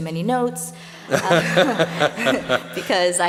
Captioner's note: laughs